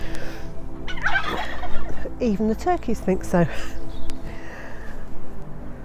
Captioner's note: noises from the turkeys